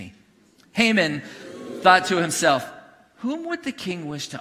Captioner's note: congregation booing